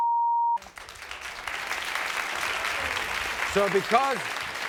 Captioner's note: crowd cheering